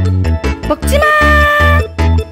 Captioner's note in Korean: 높은 소리로